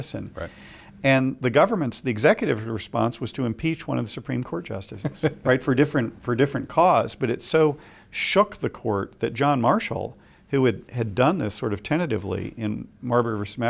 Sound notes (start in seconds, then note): 5.0 laughs